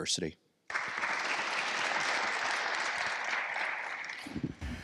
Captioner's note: attendees applauding